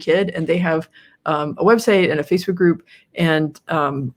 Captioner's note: none